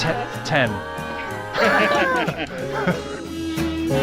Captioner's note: everybody laughs